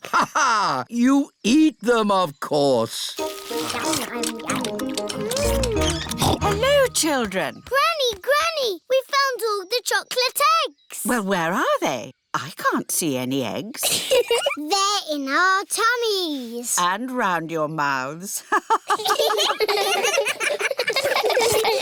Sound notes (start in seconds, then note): 0.2 laughs; 5.7 snorts; 13.8 giggles; 18.6 all laughing; 18.8 laughs